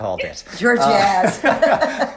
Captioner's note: laughs